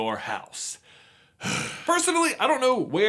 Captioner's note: sigh of disappointment and disapproval